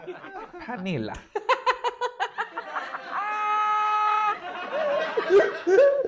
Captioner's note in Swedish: skrattar